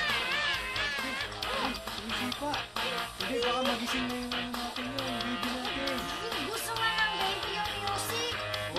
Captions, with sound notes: [gasps] It's kicking. Our baby might wake up. -No. The baby likes the music. -Really?